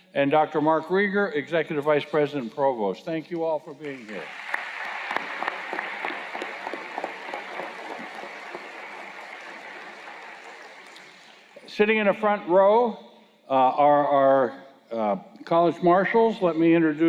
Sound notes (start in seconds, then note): 3.8 applause